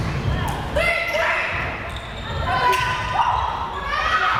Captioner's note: players shouting